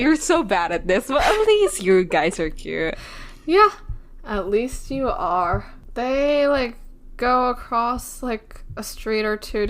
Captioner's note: laughs